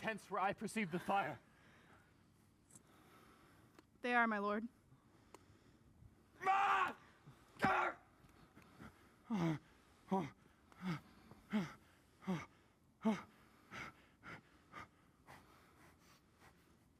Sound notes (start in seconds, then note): 6.3 yells; 8.9 panting